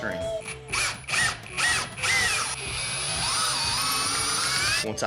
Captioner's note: drilling